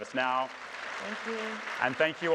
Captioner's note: audience applauding